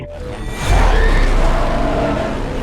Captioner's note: dinosaur shrieks; engine roars